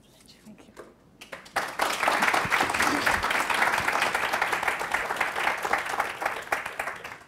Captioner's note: applause